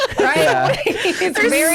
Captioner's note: laughs